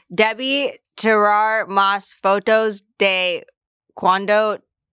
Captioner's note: speaks foreign language